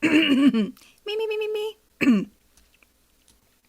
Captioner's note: clears throat